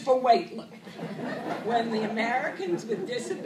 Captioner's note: laughter